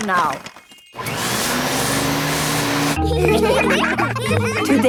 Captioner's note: whirring; all laughing